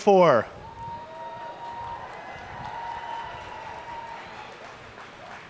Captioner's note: families and guests cheer